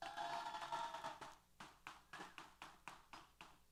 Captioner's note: applause & Cheers